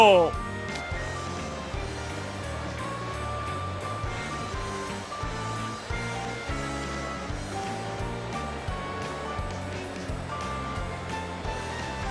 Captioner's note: crowd excited murmuring